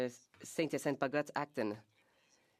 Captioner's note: speaking French